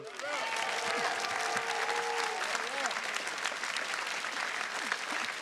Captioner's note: attendees cheers and claps